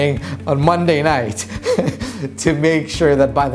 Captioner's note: laughs